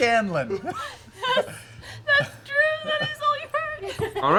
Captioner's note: laughs